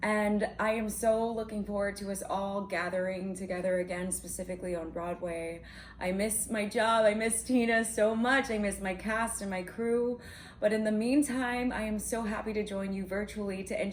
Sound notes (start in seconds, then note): none